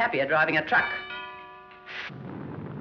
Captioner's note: doorbell